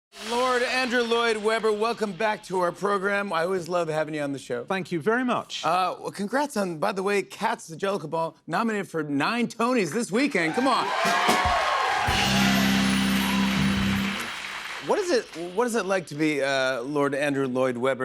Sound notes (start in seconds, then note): 10.3 cheers and applause